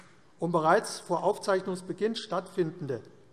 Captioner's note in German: none